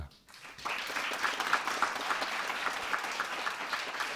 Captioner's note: audience applauding